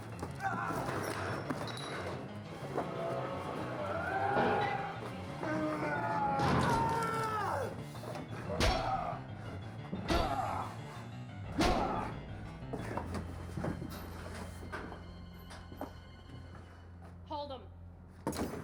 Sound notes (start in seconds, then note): 0.1 dramatic music; 0.1 screams; 8.5 dramatic music